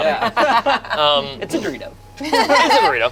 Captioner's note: group laughs